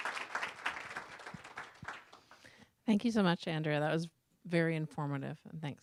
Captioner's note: applause